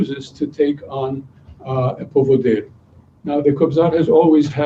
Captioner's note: non-english speech